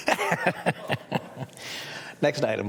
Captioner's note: laughter